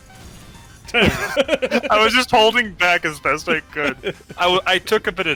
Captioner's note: laughing